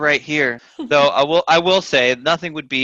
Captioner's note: laughs